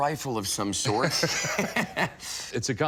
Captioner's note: laughter